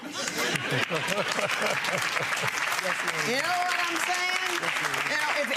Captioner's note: audience laughing drowns out